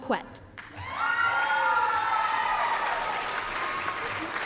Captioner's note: applause, cheering